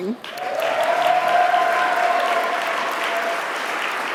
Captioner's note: audience applauding